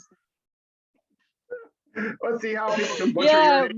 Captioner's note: laughs